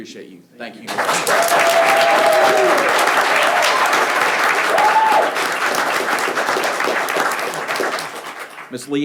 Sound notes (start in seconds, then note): 0.8 people clapping; 0.9 people cheering